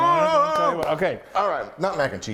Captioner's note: groans; claps